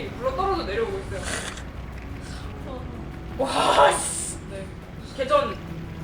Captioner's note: laughs in panic